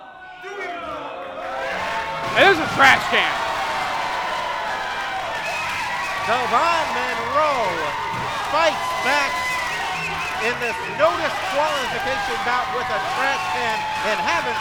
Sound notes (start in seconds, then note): 0.7 crowd booing; 5.5 crowd cheering